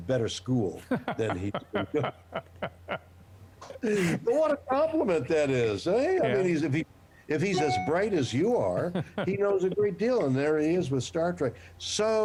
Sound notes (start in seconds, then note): 8.8 laughter